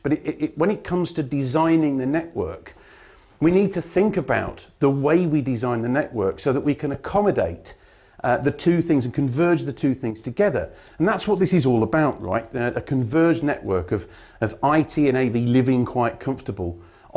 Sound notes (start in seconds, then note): none